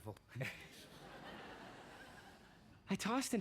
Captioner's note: frank chuckles